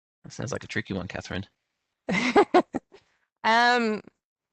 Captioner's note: chuckles